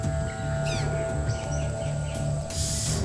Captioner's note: squawking